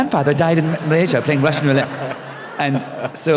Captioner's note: laughter